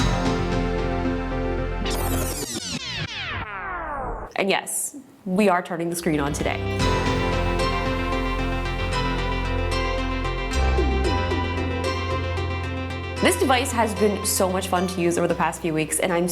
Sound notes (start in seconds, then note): 0.0 inspiring music; 1.8 record scrubbing